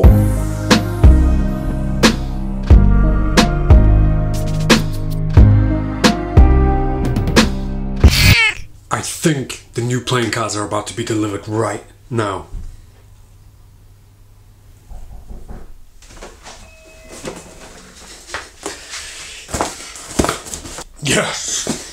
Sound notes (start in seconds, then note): 0.0 electronic bass music; 7.8 squeak; 16.6 doorbell ringing